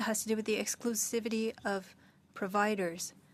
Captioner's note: speaking French